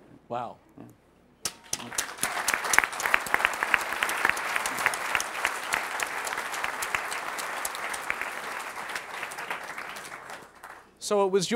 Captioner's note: applause